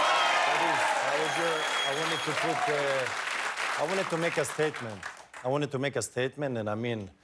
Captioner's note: cheers and applause